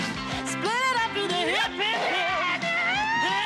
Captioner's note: Кричит